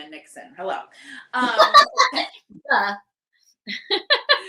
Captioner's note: both laughing